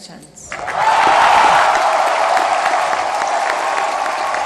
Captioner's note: applause